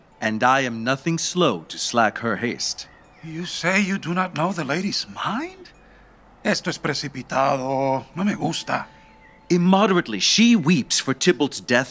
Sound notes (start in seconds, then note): none